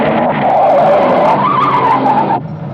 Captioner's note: tires squealing